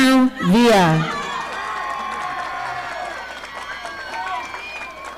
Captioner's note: audience applauding